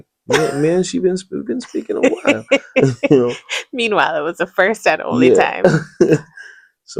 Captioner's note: laughter